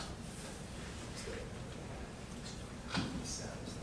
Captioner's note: whispering